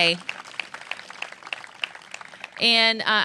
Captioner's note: applause